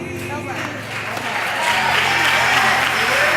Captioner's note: applause